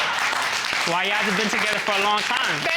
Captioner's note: audience applauds